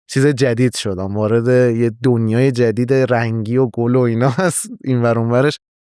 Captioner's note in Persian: خنده